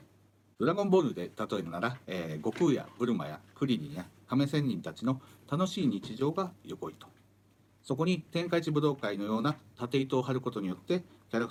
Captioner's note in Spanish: Hablando en japonés